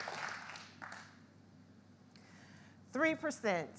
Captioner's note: audience applauds